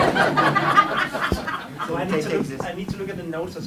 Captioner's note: laughter